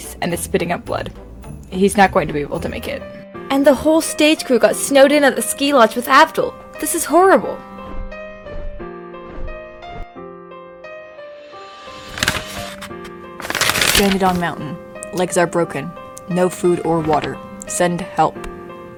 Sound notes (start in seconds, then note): 13.4 paper rustling